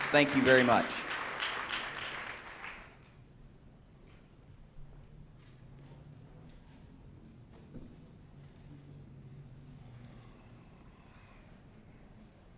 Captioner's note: applause